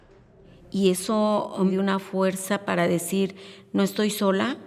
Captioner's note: speaking Spanish